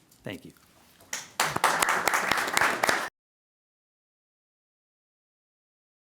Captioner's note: applause